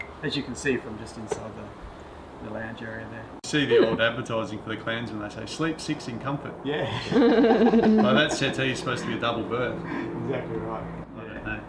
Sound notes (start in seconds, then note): 6.9 laughing